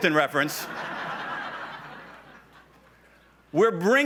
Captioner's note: laughs